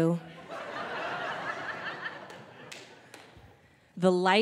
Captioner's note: audience laughing